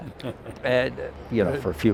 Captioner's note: laughing